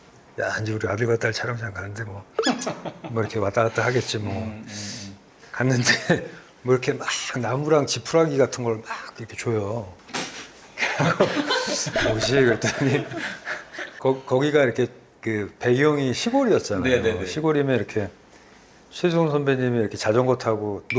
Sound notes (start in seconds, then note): 10.8 laughing already